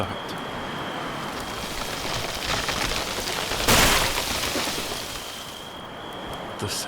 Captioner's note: wind blows harder, trees begin creaking loudly